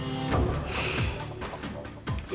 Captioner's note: sighs